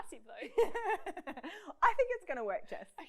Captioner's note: laughs